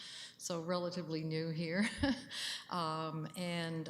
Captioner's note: chuckles